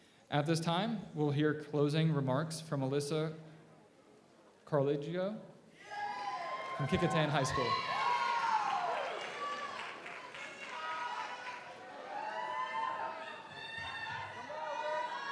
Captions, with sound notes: At this time we'll hear closing remarks from Alyssa Carluccio from Kecoughtan High School. (audience applauds) (audience cheers)